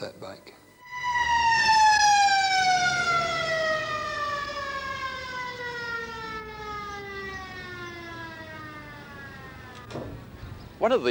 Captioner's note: siren from ambulance